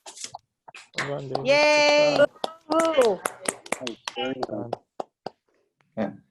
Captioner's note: clapping